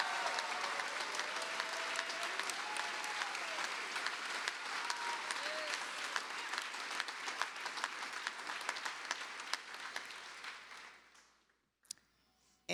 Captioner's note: cheers and applause